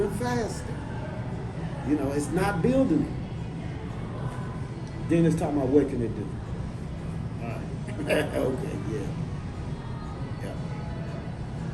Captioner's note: shakes head and laughs